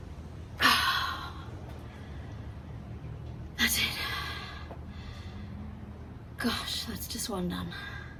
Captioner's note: sighs heavily